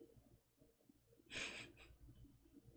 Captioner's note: chuckles